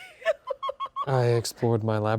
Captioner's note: Fiona laughing